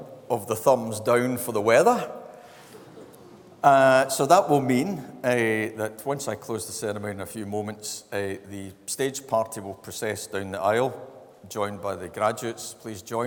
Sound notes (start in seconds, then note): 2.3 laughs